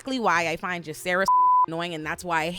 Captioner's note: beep